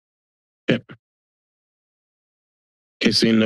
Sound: silence

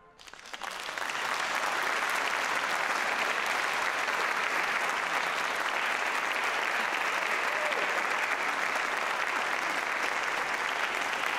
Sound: applause

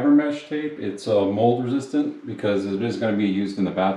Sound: none

